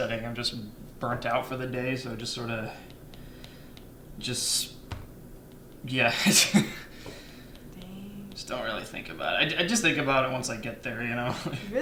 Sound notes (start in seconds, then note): 6.5 chuckle